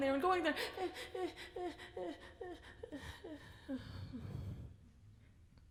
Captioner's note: speaker whimpers